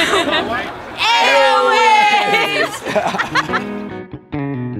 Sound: laughs; gentle music

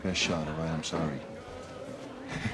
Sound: laughing

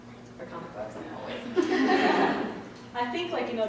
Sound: laughter

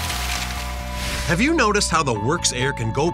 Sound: voiceover

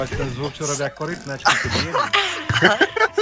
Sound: laughing

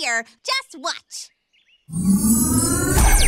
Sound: whirring and whooshing

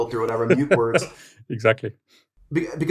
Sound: laughs

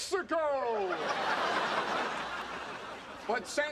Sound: audience laughing

